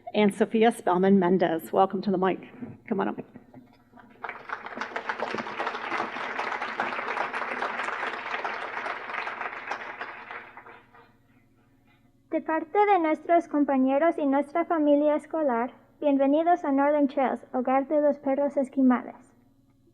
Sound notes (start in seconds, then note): 4.0 applause; 12.1 spoken in Spanish